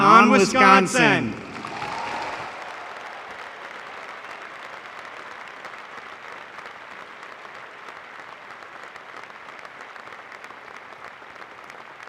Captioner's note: applause